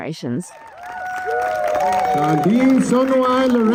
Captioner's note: crowd cheering